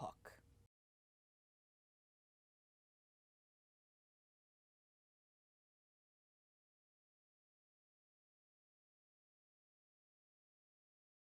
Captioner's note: no Sound Present